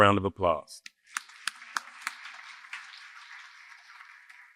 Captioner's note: applause